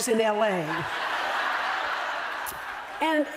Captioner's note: laughter